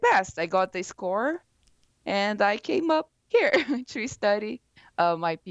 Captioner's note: laughing